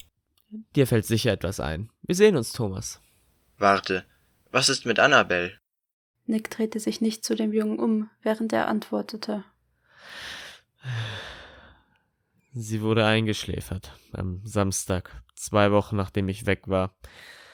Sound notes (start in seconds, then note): 10.8 sigh